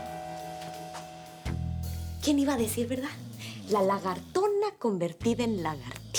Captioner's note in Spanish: Suena el timbre